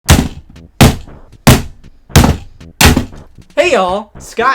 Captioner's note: hammer pounding